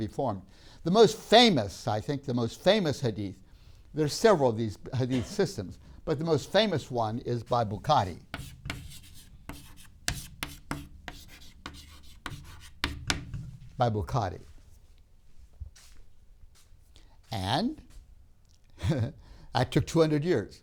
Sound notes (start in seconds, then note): 9.7 chalk scrapes; 13.1 laughs